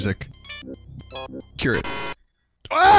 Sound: random glitchy noises; shouts in pain

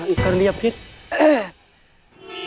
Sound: clears throat

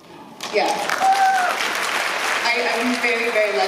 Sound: applause

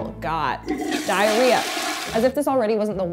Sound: toilet flushing

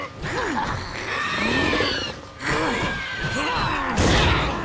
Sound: grunting; screeching; grunting, thudding

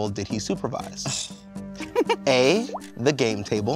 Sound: chuckles

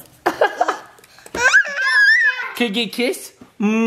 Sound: dad laughs; screams

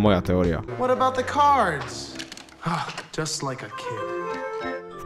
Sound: ghasp

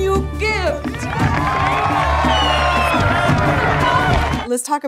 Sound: crowd cheers; fireworks squeal, explode

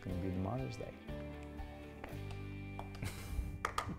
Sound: laugh

